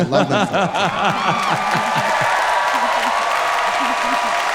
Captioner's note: audience clapping